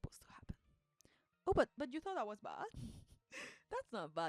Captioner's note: laughs